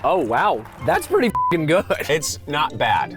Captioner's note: beep